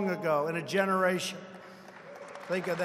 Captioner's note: applause